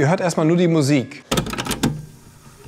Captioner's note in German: Klackern